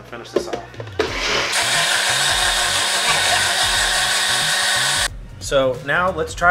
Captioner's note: sped up blender and speech